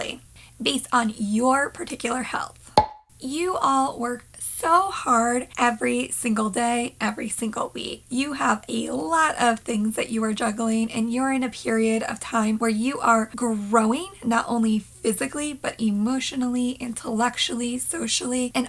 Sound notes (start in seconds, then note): 2.7 pop